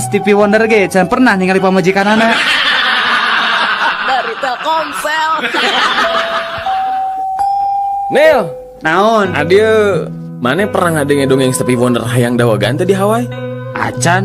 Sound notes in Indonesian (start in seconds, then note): 6.4 tertawa